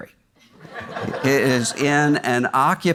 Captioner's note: audience laughs